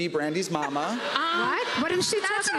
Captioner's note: laughter